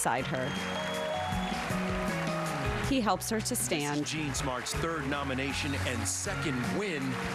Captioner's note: cheers and applause